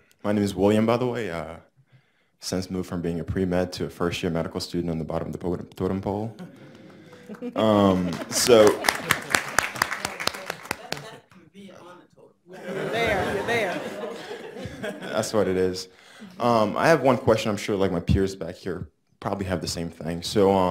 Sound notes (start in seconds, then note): 6.4 audience applauds; 12.5 audience laughs